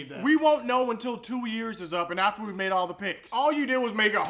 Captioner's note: none